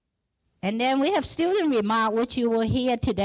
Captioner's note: speaking foreign language